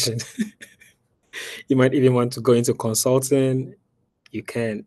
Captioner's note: laughs